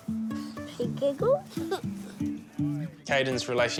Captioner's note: giggles